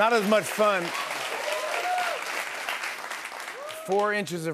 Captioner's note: applause